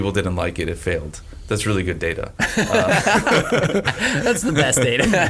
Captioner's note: laughing